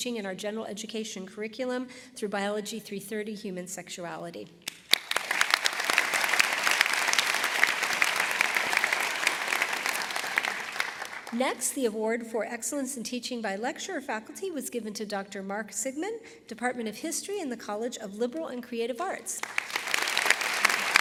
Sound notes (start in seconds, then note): 4.6 applause; 19.4 applause